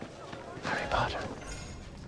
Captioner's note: whispering